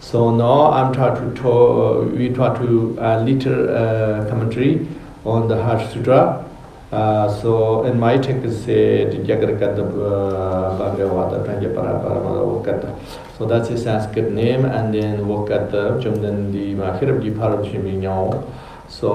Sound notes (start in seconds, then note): 11.1 tibetan; 17.9 tibetan